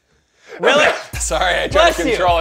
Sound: sneezes

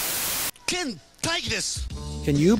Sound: static

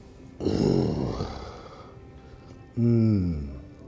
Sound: groans

